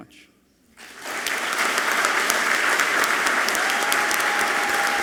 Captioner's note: audience clapping loudly